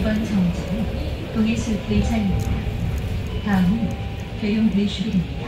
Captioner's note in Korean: 하차벨 소리